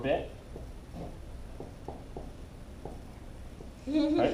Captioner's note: marker on whiteboard